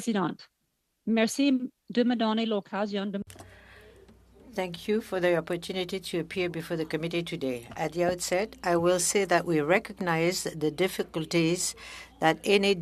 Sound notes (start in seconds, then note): 7.6 speaking french